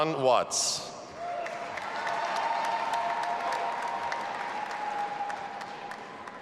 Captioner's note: audience applauding and cheering